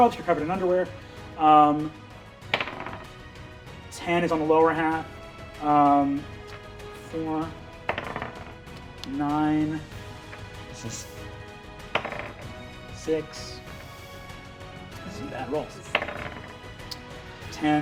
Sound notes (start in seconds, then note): 2.5 die rolling; 7.8 die rolling; 11.9 die rolling; 15.9 die rolling